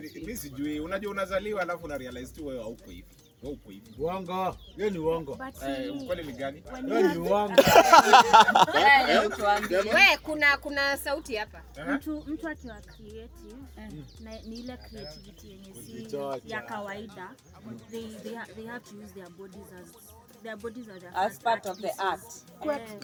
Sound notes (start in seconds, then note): 4.6 male voices